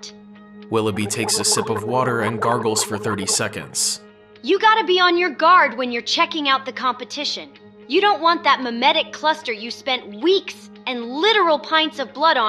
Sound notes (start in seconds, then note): 0.7 Willoughby takes a sip of water and gargles for thirty seconds